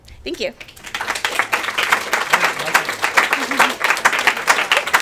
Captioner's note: attendees applaud